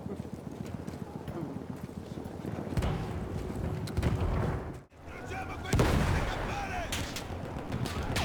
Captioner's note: gunfire